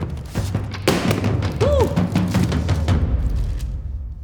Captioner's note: intense drum music; pan clattering